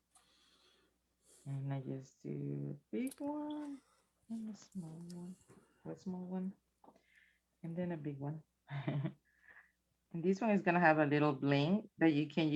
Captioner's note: chuckles